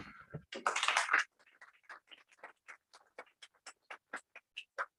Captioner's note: applause